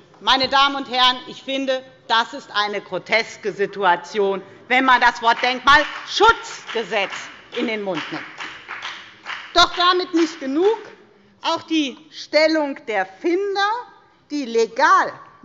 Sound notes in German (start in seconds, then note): 7.5 Beifall bei der FDP